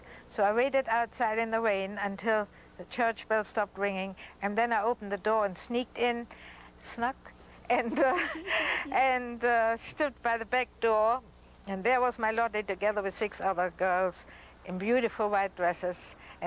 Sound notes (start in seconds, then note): 7.8 laughs